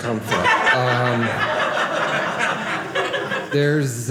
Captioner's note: audience laughing